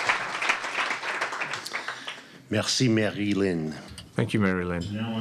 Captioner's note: applause